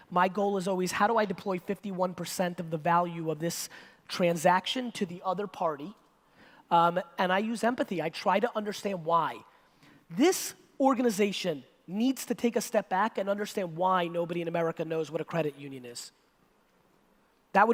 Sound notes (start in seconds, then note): none